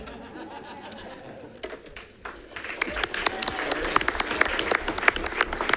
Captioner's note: audience laughing and clapping